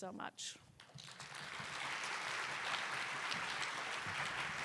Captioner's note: applause